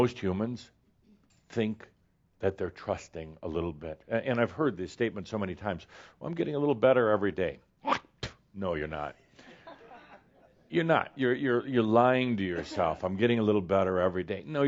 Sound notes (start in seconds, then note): 8.2 spit!; 9.4 some chuckles